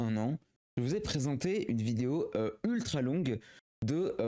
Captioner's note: in french only